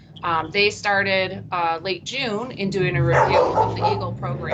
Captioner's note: car engine revs